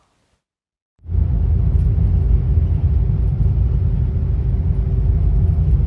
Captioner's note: train rumbling